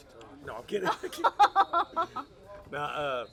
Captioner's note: laughs